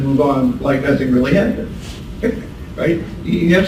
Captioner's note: laughs